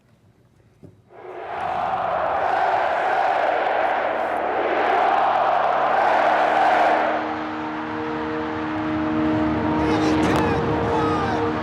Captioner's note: cheering